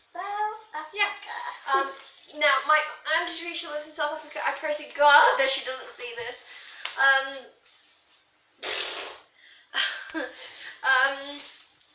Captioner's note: blows raspberry